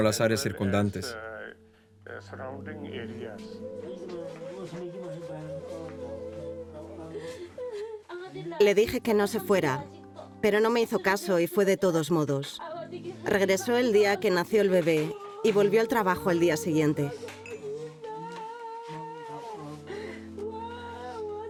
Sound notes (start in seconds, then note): 6.9 woman sobbing; 8.4 speaking in a foreign language